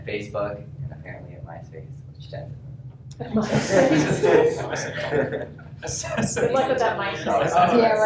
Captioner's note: laughter